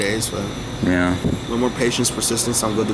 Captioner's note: quietly